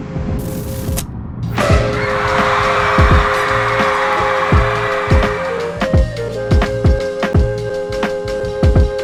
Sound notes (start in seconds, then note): 1.5 crowd cheering; 5.6 upbeat hip-hop music